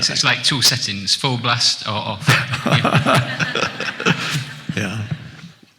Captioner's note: Eckhart chuckles